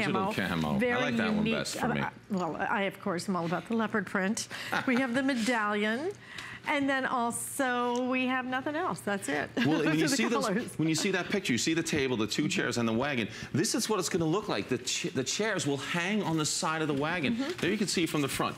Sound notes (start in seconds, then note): 9.5 laughter